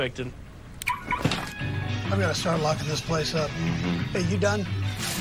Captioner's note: beep beep